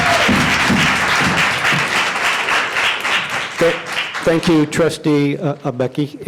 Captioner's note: crowd stomping their feet; applause